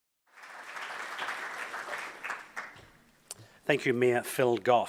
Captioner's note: audience applauds